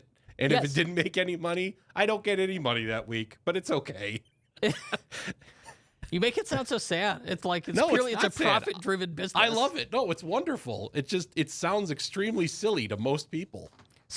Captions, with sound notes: And if it didn't make any money, I don't get any money that week. But it's okay. - (laughs) You make it sound so sad. It's like, strictly it's a profit-driven business. - No, I love it. No, it's wonderful. It just, it sounds extremely silly to most people.